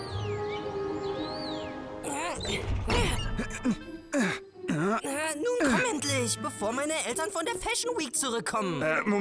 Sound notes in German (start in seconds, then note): 2.4 Klettergeräusche